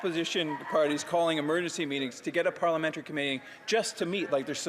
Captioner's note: some Applause